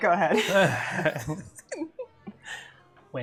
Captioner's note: laughter